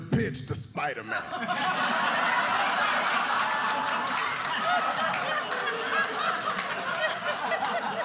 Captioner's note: audience laughing